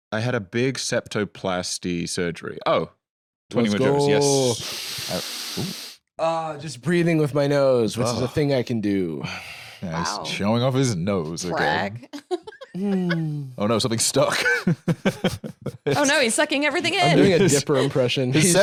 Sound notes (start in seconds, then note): 4.6 inhales deeply; 12.7 sighs happily